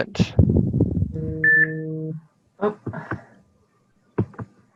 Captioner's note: phone beeping